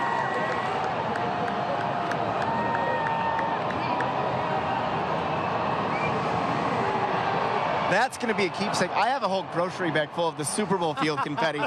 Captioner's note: applause